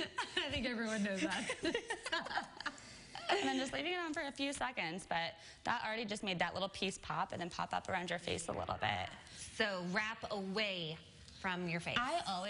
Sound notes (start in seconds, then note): 4.5 laughter